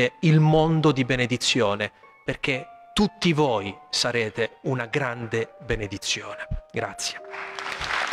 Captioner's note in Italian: Applauso